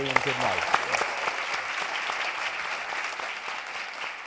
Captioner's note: applauding